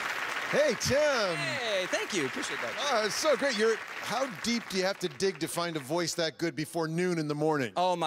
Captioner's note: cheers and Applause